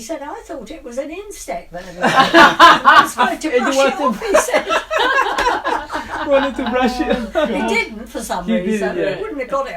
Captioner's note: laughs